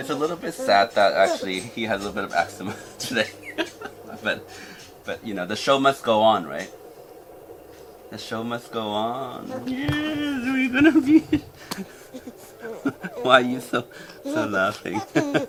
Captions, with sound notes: It's a little bit sad that, actually, he had little bit of eczema today (laughing) but, you know, the show must go on, right? The show must go on. Yes, we're gonna be. (baby laughing) Why you still laughing?